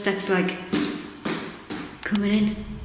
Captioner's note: banging feet